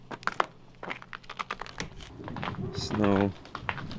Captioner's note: ice crunching